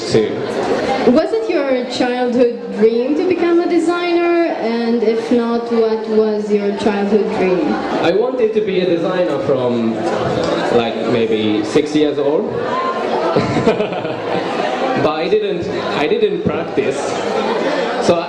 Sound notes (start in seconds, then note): 12.7 laugh